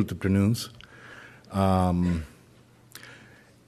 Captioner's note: speaking in Spanish